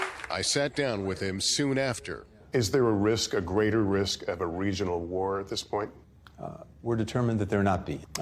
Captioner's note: applause